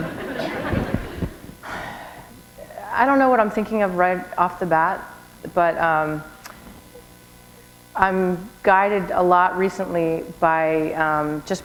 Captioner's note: chuckle